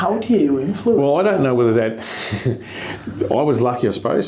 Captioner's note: chuckles